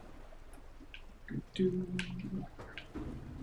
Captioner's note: humming